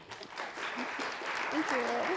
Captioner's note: attendees applauding